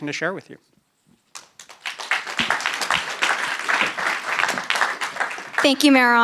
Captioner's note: applause